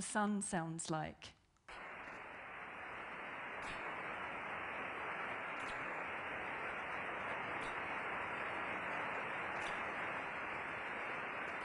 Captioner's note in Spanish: Estática